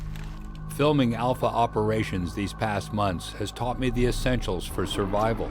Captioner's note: voiceover